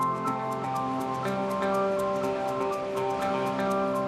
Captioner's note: waterfall